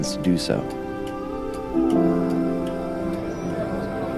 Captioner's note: clock ticking; background chatter